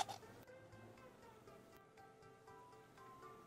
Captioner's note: cups scraping